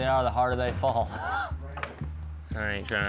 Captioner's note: laughing